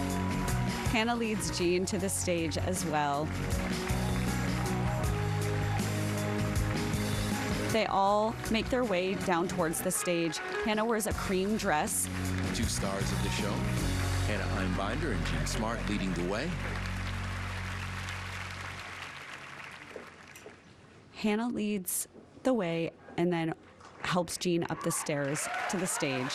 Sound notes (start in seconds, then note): 8.8 applause